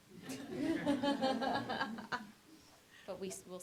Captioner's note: laughter